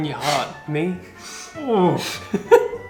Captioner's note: groans